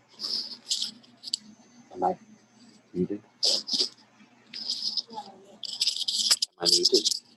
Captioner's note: background chatter